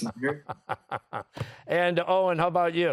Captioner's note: chuckling